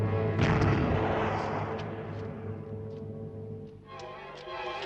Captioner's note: explosion booms; dramatic orchestral music